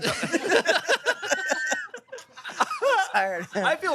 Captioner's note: everyone laughs